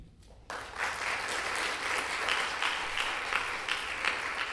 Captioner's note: audience applauding